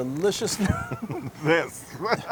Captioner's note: laugh